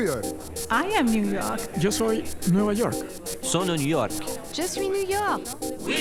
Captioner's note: Spanish; French